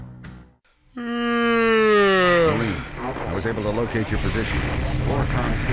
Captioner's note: yawns